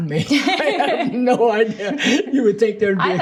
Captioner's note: both laughing